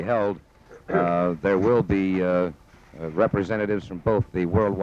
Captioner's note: papers shuffling